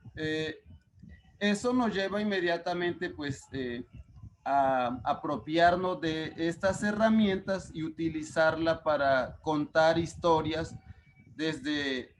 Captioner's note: speaking Spanish